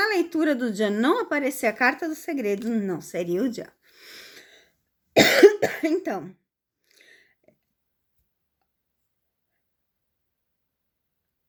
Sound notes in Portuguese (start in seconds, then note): 5.2 tosse; 5.2 limpando a garganta